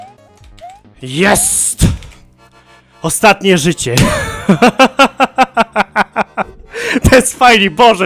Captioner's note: laughing like a lunatic